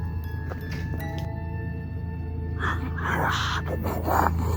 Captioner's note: footsteps crunch